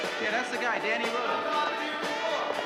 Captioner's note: shouting